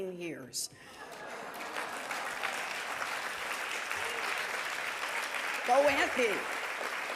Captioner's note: audience laughing and applauding